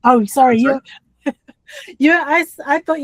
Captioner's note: laughs